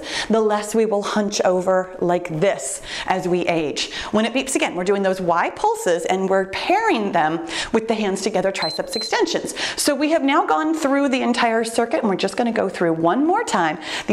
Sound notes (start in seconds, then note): 8.6 timer beeps